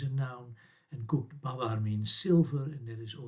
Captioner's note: sumerian